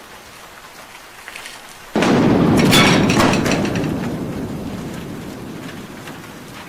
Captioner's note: thunder cracks